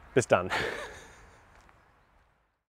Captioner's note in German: lacht